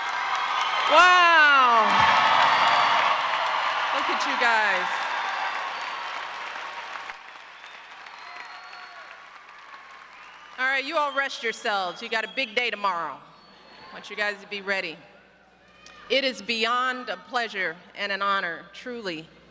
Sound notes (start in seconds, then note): 0.0 applause; 6.3 applause